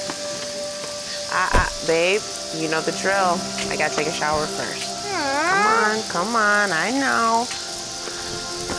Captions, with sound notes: (car door banging) - Babe, you know the drill. I gotta take a shower first. (child groaning) Come on. Come on. I know.